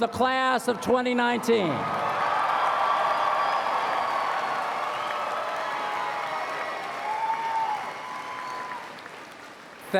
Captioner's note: applause